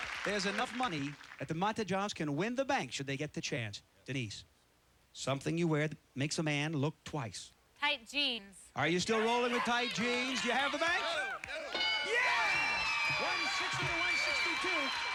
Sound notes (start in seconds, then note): 12.2 cheers and applause